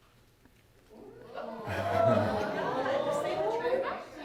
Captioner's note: audience gasping